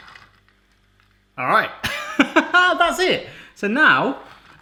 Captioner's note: laughs